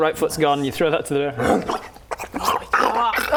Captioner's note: bear growl; bear munch